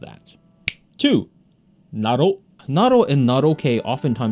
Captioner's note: fingers snap